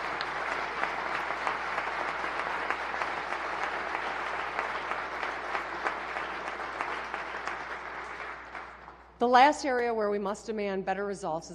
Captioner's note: applause